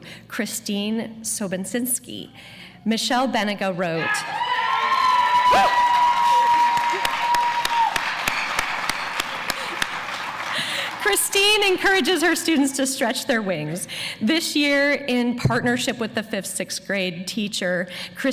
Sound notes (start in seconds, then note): 4.8 applause